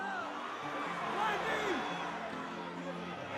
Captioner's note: fans cheering